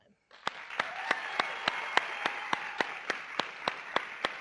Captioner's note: audience clapping